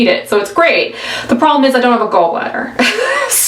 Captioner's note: laughs